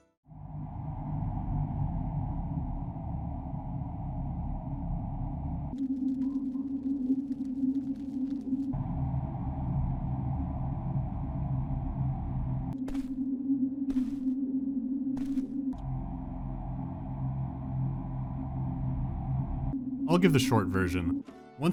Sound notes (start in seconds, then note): 0.3 creepy ambience; 8.8 creepy ambience; 12.6 soft footsteps; 15.7 creepy ambience